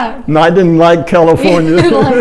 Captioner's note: laughing